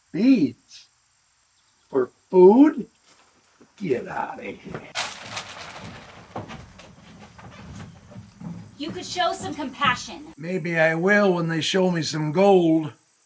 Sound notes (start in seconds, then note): 5.0 beads snapping